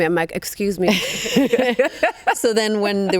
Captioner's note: both laughing